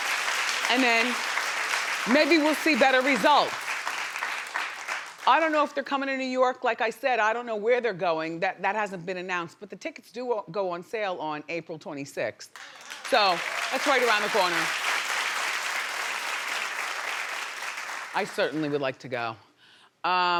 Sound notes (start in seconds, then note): 15.0 audience applauding